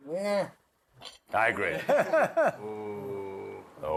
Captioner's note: laughter